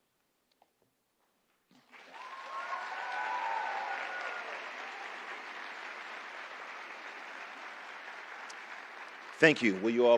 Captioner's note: applause